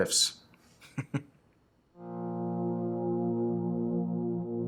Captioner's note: chuckles; slow serious music